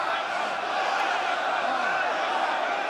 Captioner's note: crowd shouting